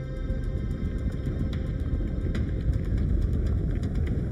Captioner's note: ground rumbling; wind blowing